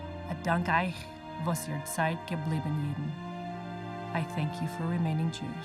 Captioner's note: speaking foreign language